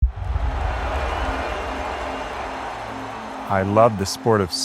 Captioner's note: cheering